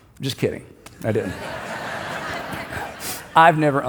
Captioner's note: congregation laughs